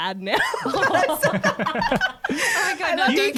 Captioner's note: laughter